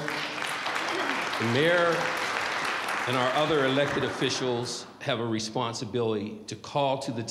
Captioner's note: applause